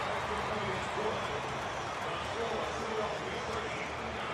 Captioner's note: pa announcement